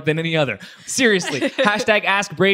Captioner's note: laughs